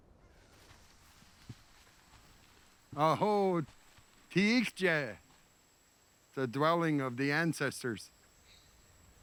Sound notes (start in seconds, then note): 2.4 speaking Lakota